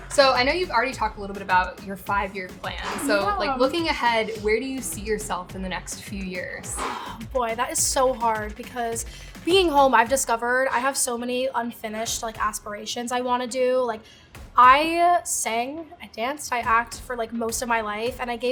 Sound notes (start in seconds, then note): 2.8 sneezes